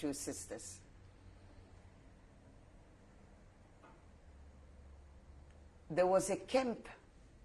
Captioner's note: pauses for 6 seconds